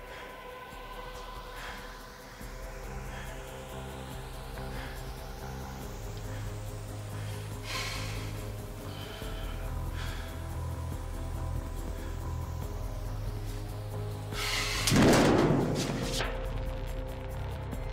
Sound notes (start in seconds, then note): 7.6 sigh; 15.0 scrape